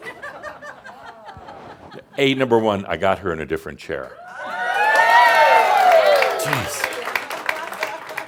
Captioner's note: more chuckles; audience cheers and some applause